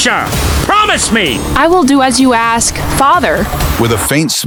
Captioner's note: whispering